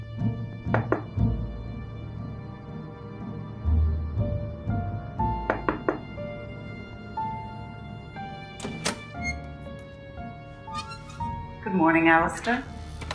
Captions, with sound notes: [knocking] [door clicks] Good morning, Alister.